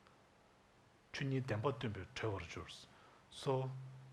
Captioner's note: speaking tibetan language